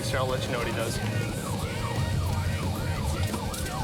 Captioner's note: siren blaring